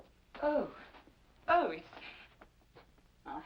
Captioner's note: none